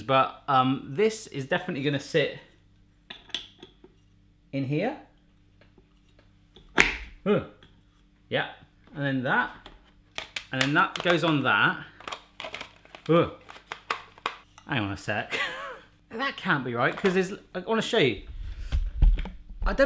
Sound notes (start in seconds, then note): 15.7 laughing